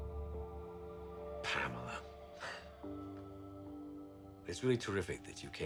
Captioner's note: laughs